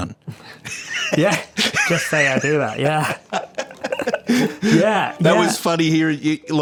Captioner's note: laughing